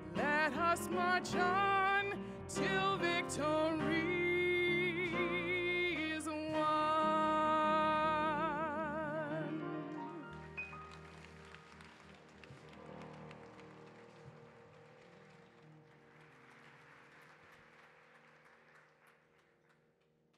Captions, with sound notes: Let us march on till victory is won. [APPLAUSE]